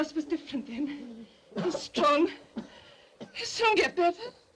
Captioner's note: Joss coughs